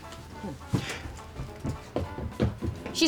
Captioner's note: foot steps running